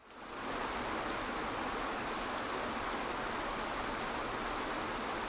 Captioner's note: waterfall crashing peacefully